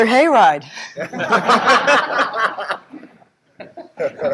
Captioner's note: group Laughter